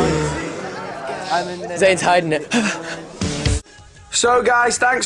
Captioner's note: deep breathing; breathes out